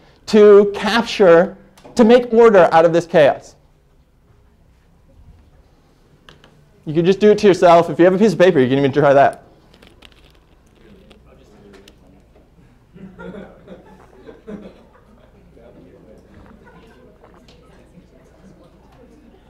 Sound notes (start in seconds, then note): 10.9 classroom chatter